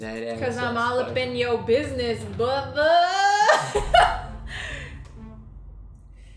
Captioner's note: laughs